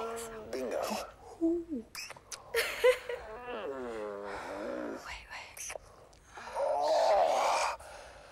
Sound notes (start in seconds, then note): 2.4 laughing; 3.2 groaning